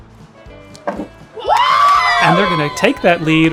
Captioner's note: players screaming